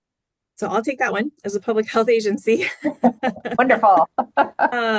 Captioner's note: chuckles